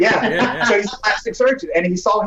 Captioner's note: laughing